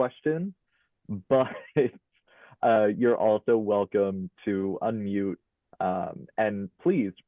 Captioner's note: chuckles